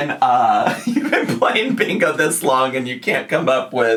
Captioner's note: laughs